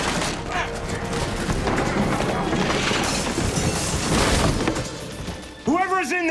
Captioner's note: crashing and clattering